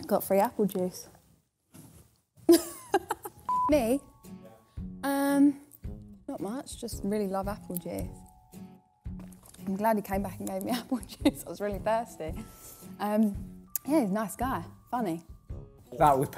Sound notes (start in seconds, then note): 2.3 laughing; 3.4 beep